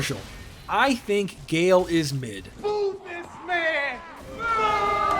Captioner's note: booing